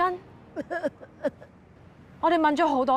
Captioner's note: sobbing